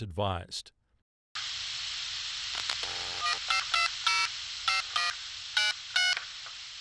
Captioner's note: static buzzing; phone keypad beeping